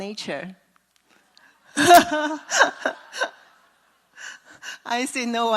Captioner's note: laugh